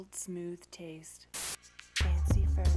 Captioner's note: static